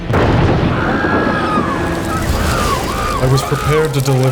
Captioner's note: thunder crashing; people screaming